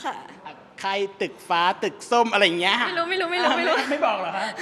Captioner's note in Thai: เสียงหัวเราะ